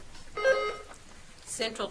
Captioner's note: buzzer trills